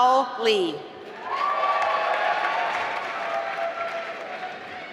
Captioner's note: applause